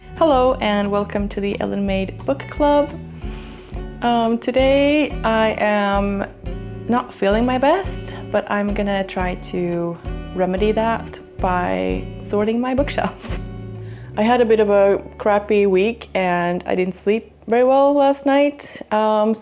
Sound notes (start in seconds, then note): none